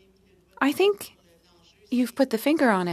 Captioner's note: speaking French